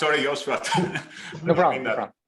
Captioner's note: laughs